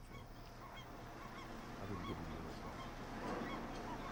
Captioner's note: birds chirping